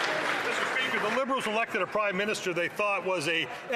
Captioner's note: some Applause